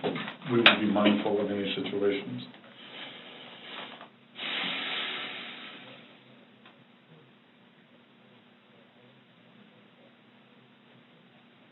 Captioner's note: breathes out audibly